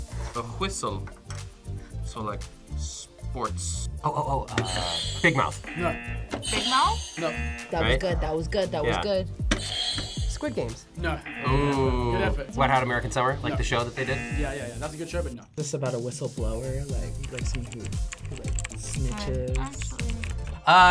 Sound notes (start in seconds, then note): 5.2 buzzer rings; 5.6 buzzer; 11.2 buzzer rings; 11.2 buzzer; 13.9 buzzer